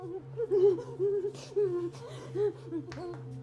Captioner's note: Aleks sobbing